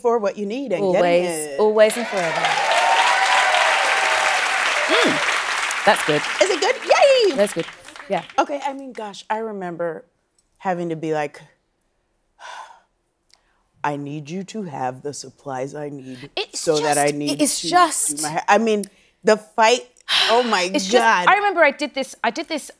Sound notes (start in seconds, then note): 1.6 cheering and applause; 11.5 sighing